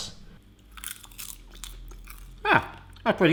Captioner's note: chewing noise